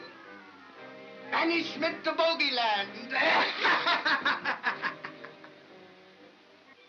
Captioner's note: cackles loudly